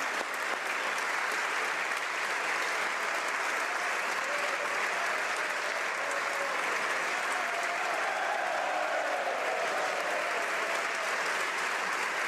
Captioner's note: applause